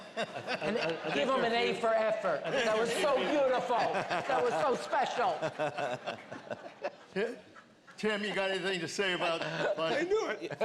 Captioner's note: laughter